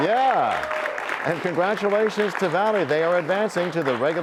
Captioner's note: applause